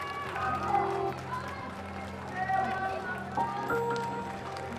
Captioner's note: applause, shouts of encouragement; suspenseful music